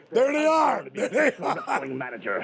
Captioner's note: laughs